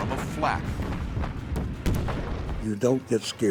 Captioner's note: explosions